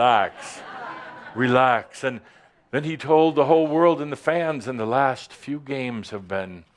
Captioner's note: some chuckles